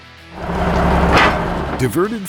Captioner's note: truck thuds loudly; truck humming